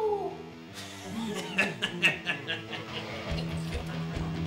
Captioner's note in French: rire démoniaque